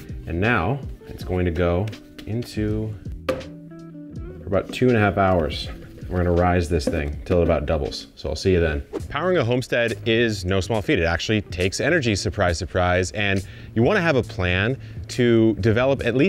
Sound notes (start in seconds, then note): 3.3 dough thuds; 8.6 screen wipe whooshes